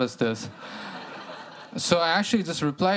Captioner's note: laughter